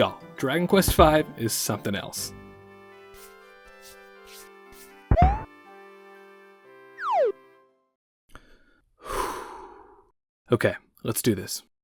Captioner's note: exhales